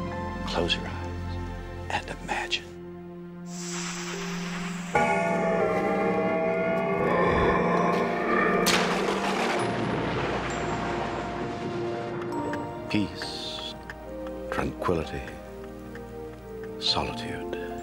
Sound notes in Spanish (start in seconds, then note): 7.6 gruñido espeluznante; 8.6 trueno estrellándose